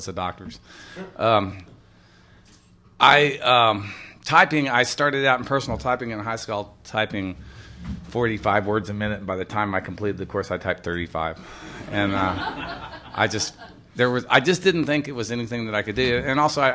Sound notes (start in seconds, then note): 11.6 laughter